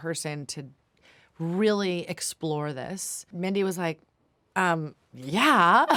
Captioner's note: laughs